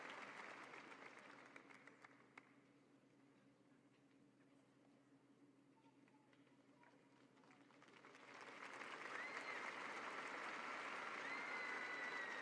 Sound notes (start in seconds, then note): 1.7 applause